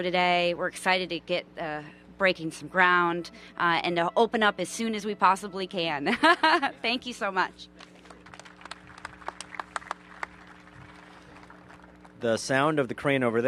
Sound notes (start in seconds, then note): 6.0 laughter; 7.7 applause